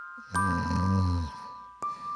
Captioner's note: snoring sounds